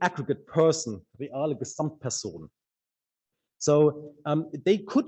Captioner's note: speaks in a foreign language